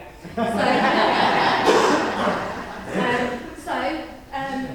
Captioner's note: audience laughing